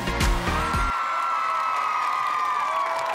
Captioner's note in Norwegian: jubel og applaus